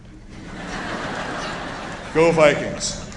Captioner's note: laughter